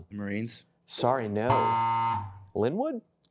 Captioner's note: incorrect buzzer